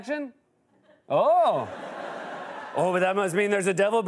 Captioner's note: laughter